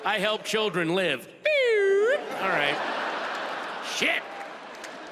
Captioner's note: audience laughs